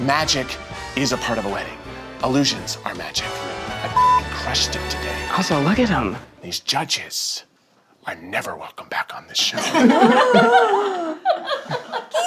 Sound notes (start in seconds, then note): 3.9 beep; 9.5 all laughing; 9.7 gasping